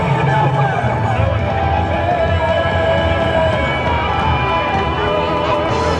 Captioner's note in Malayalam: കരഘോഷം